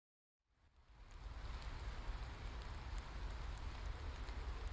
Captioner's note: rain pattering